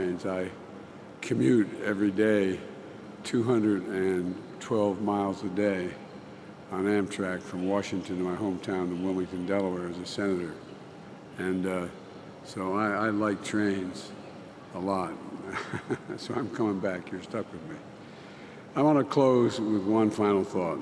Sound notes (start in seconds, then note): 15.4 laughs